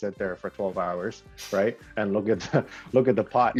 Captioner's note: chuckles